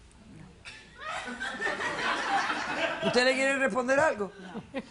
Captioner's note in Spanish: Risas